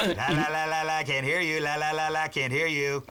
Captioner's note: clears throat